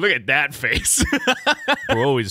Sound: laughs

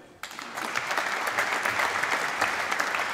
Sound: applause

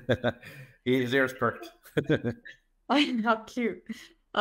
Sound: laughs

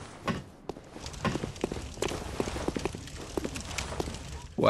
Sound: footsteps

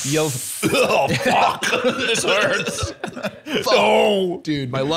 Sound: coughing

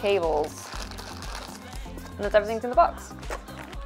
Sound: plastic crackling

